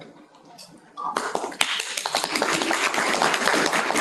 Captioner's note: applause